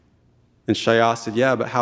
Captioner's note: speaking in Tlingit language